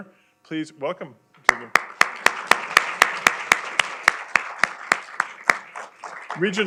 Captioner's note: applause